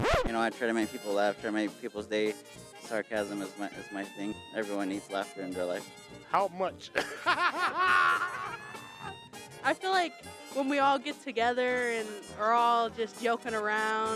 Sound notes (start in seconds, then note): 6.9 laughing Out Loud